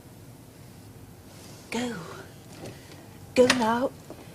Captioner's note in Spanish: Se abre una puerta